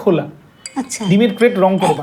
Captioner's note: phone rings